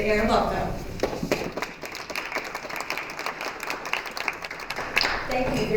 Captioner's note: applause